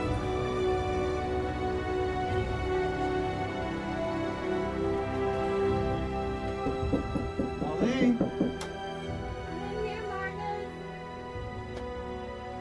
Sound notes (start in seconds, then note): 0.1 dramatic music; 6.5 door knocking